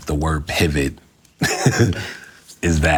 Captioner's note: laughing